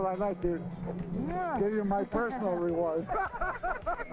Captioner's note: laughter